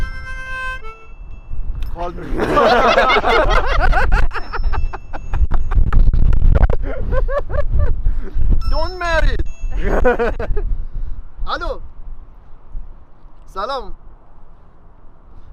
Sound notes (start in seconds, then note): 1.8 mobile phone starts to ring; 2.1 they all laugh; 11.6 speaks in foreign language